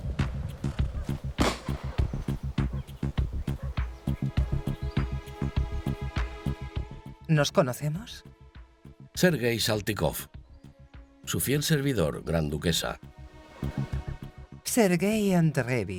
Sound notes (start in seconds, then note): 1.4 rifle fires; 3.9 dramatic music; 15.0 speaking in foreign language